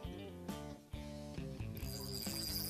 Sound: reel ratcheting

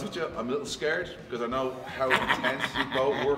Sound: laugh

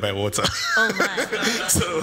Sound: laughter

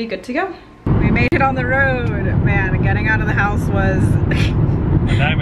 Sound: laughs

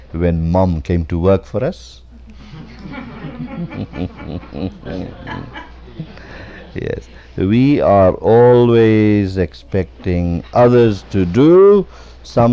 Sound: laughter

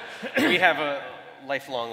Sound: laughter

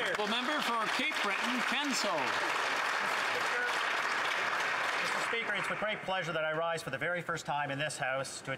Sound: some Applause

